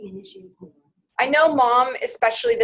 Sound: voiceover

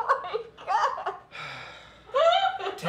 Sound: sighs

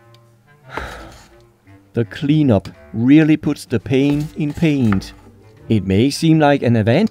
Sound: sigh

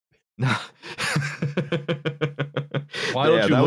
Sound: chuckles

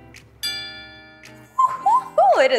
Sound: bell chime

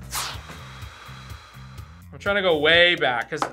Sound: sighs

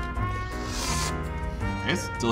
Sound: slurp

